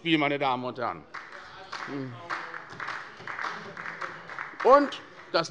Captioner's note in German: Beifall bei der SPD